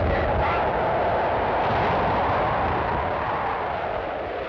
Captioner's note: people murmuring; wind howling